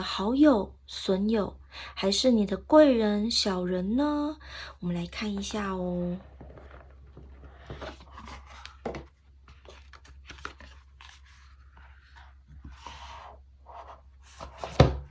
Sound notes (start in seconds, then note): 8.1 shuffling